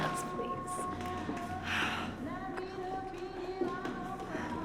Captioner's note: quietly